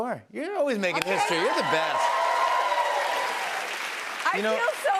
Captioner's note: cheers and applause